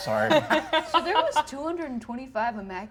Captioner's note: Ally laughs